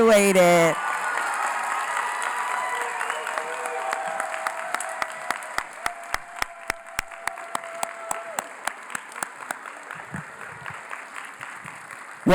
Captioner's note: cheering & Applause